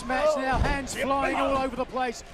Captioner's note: crowd chatter